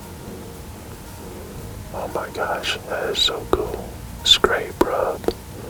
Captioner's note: whispering